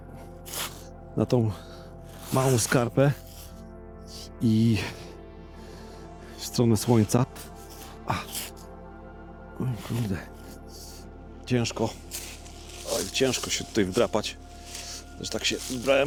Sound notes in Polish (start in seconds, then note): 0.4 parsknięcie